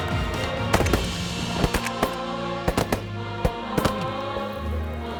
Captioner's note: gun shots